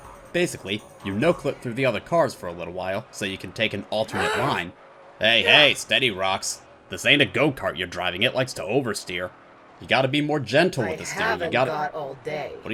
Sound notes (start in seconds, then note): 4.1 grunts; 4.1 grunts in frustration